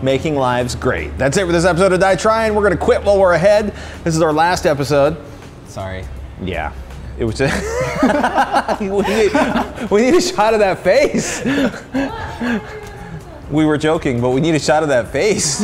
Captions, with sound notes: Making lives great. That's it for this episode of DIYTryin. We're going to quit while we're ahead. This is our last episode. Sorry. Yeah. It was-- [LAUGHTER] We need a shot of that face. We were joking, but we need a shot of that face.